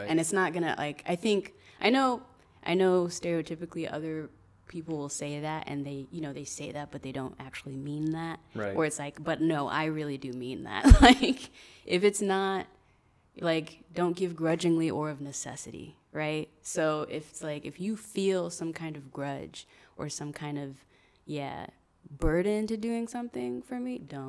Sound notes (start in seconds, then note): 11.1 laughs